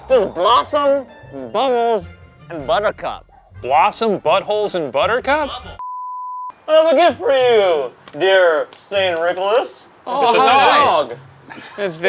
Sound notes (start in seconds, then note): 5.8 scene beep